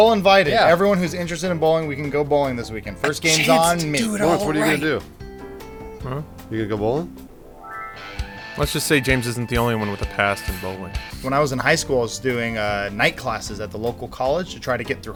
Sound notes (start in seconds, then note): 3.8 whispering